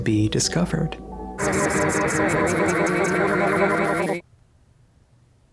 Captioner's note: reversed mangled voice clips